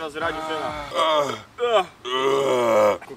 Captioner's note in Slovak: zvuky uvoľňovania nadbytočného vzduchu zo žalúdka; zvuk veľmi pofidérneho leva je späť